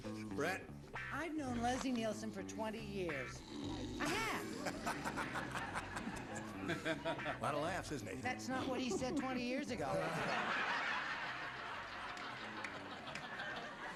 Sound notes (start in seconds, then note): 3.2 snoring; 9.8 audience laughter